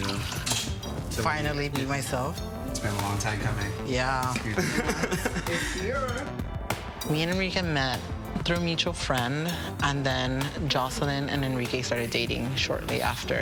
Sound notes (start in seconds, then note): 4.5 laughs